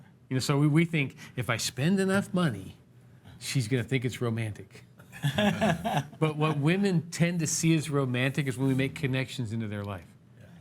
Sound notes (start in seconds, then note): 5.2 laughs